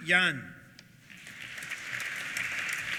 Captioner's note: applause